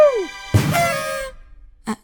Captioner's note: party horns